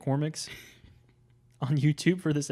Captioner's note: laughs